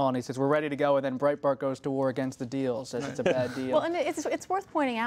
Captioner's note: laughter